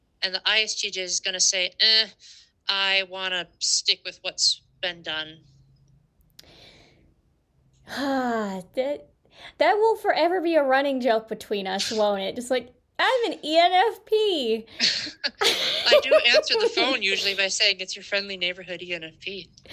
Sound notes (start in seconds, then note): 6.4 exhales; 14.7 laughter